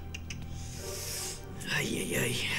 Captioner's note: clicks tongue